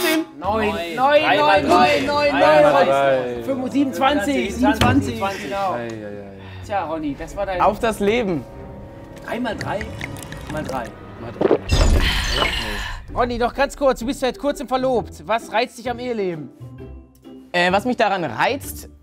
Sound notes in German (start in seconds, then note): 9.5 Schlucken; 10.0 Bedrohliche Klänge